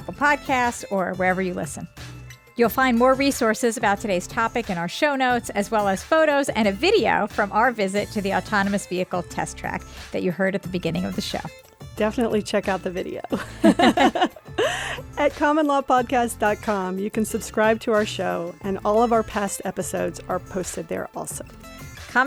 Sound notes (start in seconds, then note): 13.3 laughter